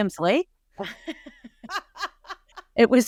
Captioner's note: laughing